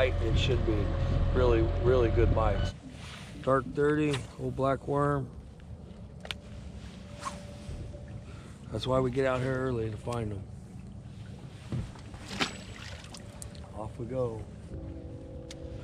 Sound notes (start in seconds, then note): 5.8 boat engine running; 12.0 fish splashing